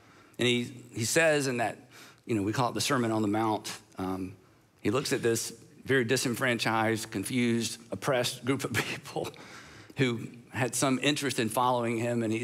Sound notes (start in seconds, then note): none